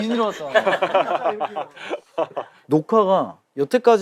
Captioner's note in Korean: 웃음